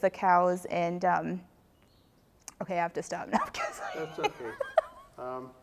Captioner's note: laughing